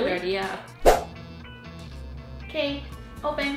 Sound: slide swooshing

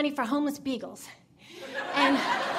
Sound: audience laughing

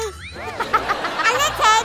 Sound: laughing

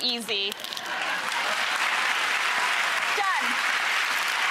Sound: applause

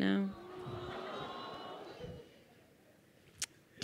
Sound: crowd awing

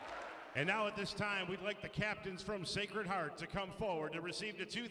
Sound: cheering

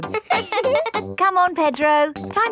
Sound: chuckles; both laughing

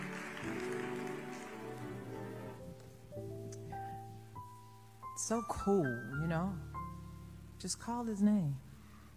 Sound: applause

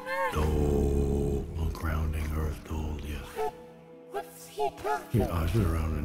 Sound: chants

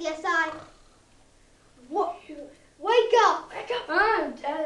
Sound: snore

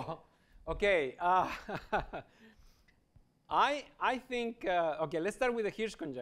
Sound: laughs

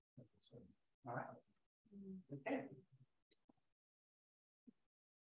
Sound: attendees murmur

